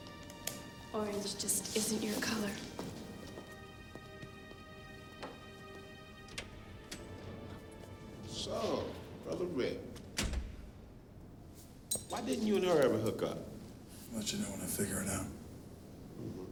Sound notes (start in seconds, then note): 3.6 slow somber music; 6.8 door clicks open